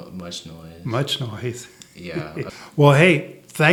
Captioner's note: laughs